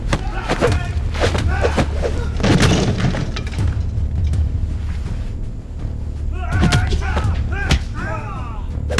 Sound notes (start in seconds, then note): 2.4 clattering